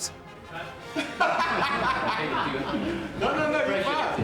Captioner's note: laughing